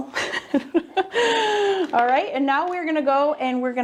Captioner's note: laughs